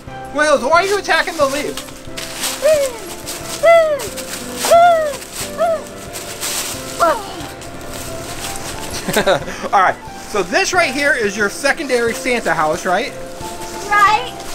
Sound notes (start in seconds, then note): 3.2 leaves rattles; 8.9 laughing